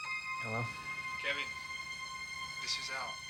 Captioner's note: on phone